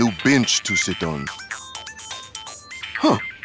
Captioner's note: phone ringing